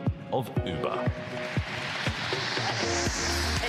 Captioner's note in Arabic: تصفيق